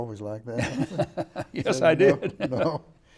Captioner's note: laughing